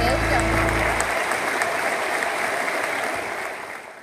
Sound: applause

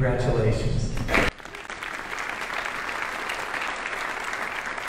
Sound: audience applauding

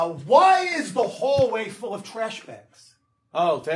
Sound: none

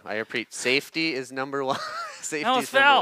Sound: laughs

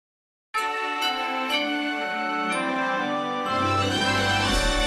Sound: assertive chime plays

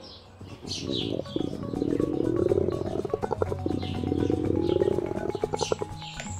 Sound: stomach growl

